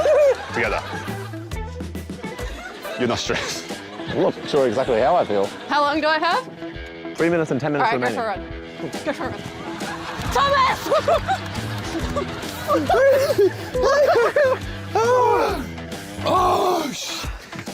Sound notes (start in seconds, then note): 0.0 both laugh; 12.7 gasps